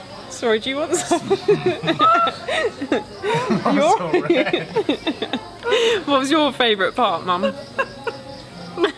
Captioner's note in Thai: เสียงหัวเราะ; เสียงหัวเราะ